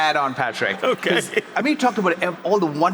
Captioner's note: laughs